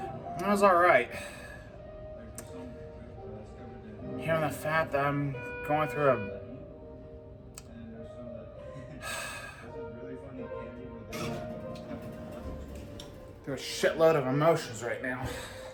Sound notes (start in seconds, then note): 6.4 elevator door opens